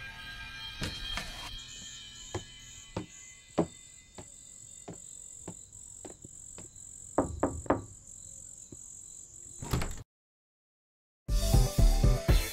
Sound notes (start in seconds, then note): 7.1 knocking; 9.5 door opens